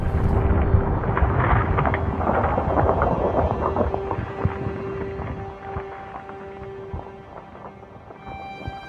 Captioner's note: volcano explosion and eerie music